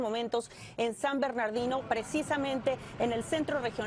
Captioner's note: spanish